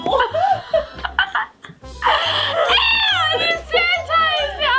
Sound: laughing

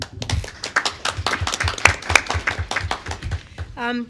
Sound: clapping

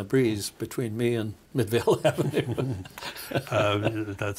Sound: laughing

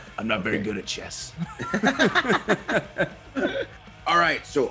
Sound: laugh

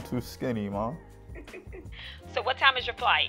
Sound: giggles

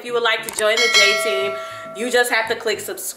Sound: bell dings

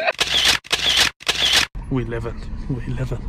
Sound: laughing; camera clicking

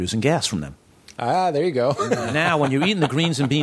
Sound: laughs

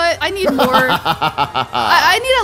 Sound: laughs

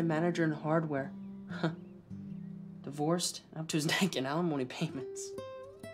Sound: chuckles

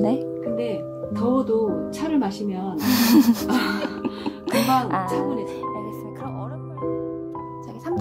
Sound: laugh

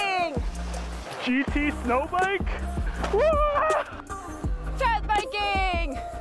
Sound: yells

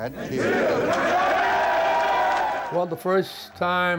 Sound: players cheering

